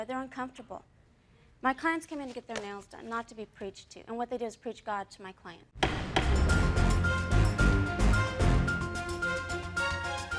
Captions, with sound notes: They're uncomfortable. My clients come in to get their nails done, not to be preached to. And what they do is preach God to my client. (gavel bangs) (tense music)